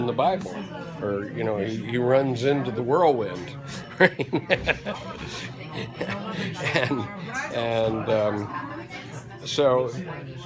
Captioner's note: laughter